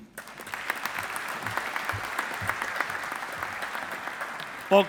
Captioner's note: audience applauding